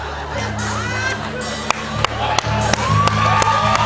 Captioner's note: cheers and applause